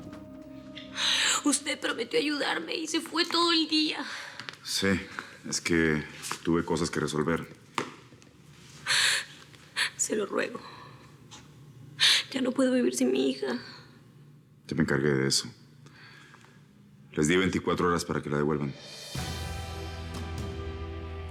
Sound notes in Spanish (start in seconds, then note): 10.4 Sollozos